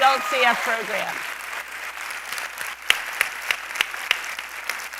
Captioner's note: applause